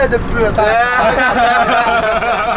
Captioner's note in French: rires